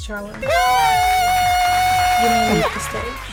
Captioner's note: cheering and clapping